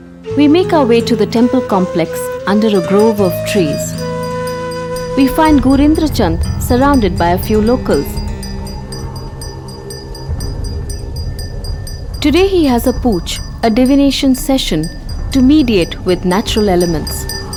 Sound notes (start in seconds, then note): 4.0 bell jingling; 4.0 soft music; 8.2 bell jingling; 8.2 sombre music